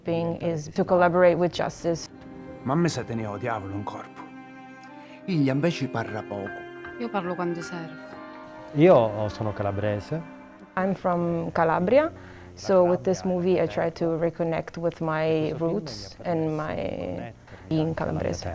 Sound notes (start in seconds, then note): 2.7 in Italian